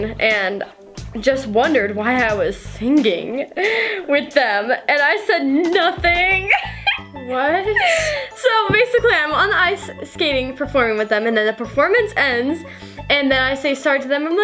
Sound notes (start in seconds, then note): 6.2 laughs